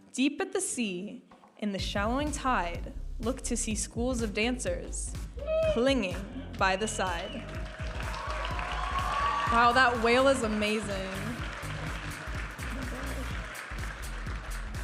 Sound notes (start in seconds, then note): 7.4 audience applauding and cheering; 12.0 upbeat music